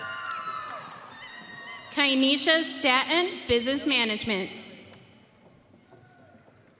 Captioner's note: audience cheering